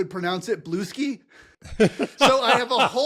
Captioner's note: laugh